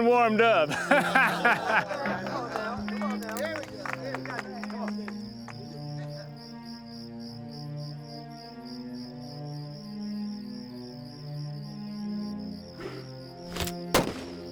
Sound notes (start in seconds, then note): 0.2 laughter; 2.9 crowd chattering, applause